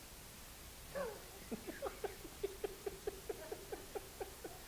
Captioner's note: laughing